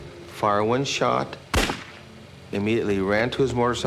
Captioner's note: gunshot